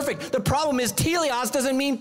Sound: speaking foreign language

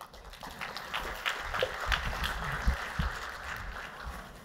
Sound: applause

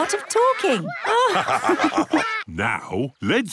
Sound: all laugh

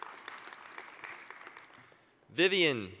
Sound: applause

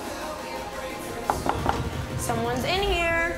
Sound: knocking on door

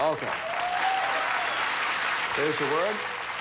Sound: audience applauding

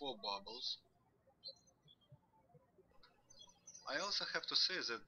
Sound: birds chirping

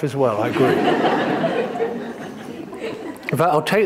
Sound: audience laughing

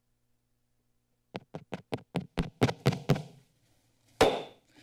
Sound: microphone thud static

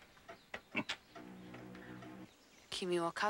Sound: lips smacking; speaking in foreign language

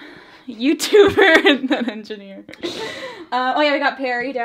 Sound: both laugh

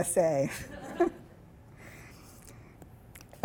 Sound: laughing

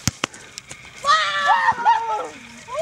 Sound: cheering

